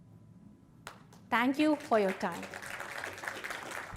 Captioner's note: applause